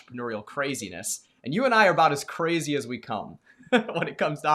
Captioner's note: laughs